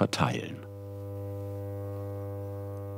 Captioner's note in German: Dröhnen